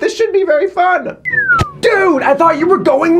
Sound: whistles

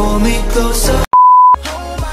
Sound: beep

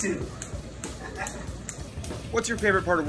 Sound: laughs

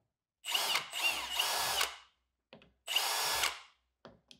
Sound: drill whirs

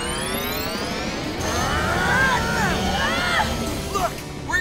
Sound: grunting

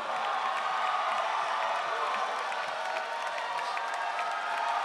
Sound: audience cheering

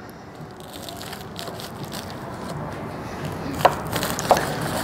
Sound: crust crunching

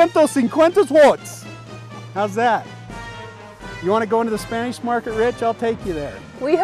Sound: speaking Spanish

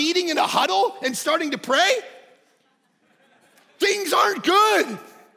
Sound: congregation laughing

